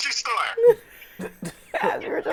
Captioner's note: laughing